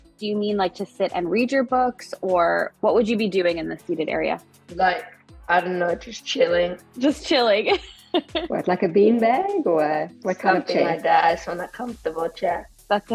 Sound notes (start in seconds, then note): 7.8 laughs